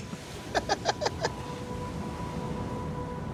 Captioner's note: both laugh